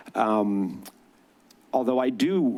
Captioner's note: clicks tongue